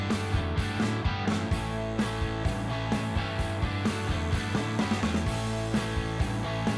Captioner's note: upbeat rock music; machine buzzing